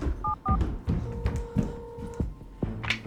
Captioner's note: phone ringing; dialing phone